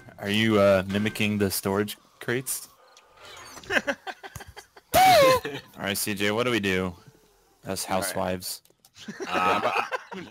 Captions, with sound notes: Are you, uh, mimicking the storage crates? *LAUGHS* *SOUND EFFECTS CONTINUE* Alright, C.J. What do we do? *LAUGHS*